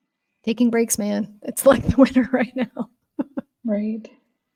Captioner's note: laughing